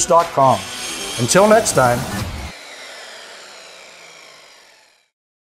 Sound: saw whirring

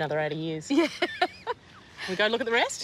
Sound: laughs

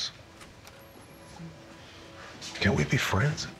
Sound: door opens in distance

